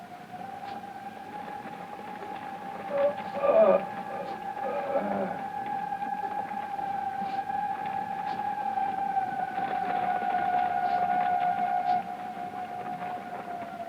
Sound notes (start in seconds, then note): 3.4 Paul groaning; 5.5 suspenseful music